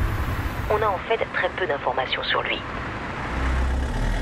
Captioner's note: radio